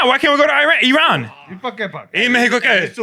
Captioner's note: speaking Spanish